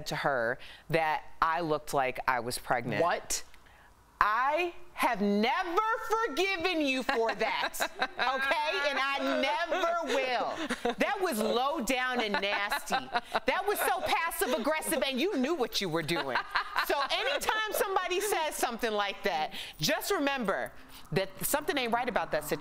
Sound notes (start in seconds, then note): 11.5 laughter